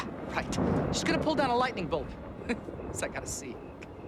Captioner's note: chuckles